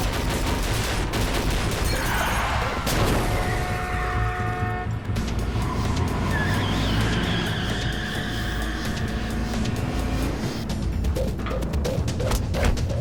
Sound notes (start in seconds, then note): 3.3 horn honks